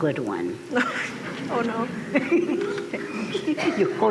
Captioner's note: laughter